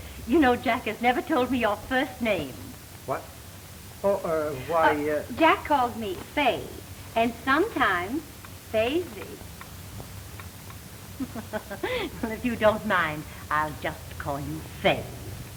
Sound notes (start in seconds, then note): 11.1 laughs